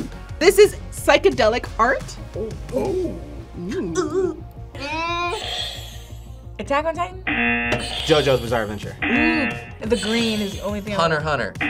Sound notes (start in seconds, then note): 7.2 buzzer; 7.2 buzzer rings; 9.0 buzzer; 9.0 buzzer rings; 11.6 buzzer